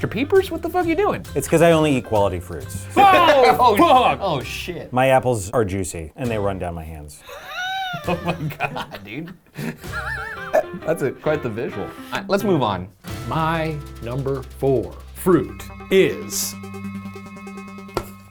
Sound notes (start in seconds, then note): 9.6 laughing